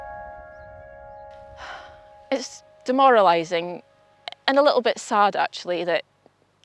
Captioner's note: sighs